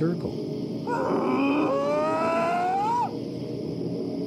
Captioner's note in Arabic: صوت بيج فوت